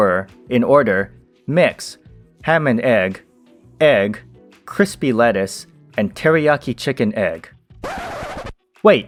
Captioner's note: record scratch